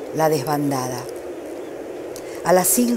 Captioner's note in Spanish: gaviotas graznan